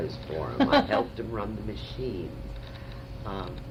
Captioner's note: laughter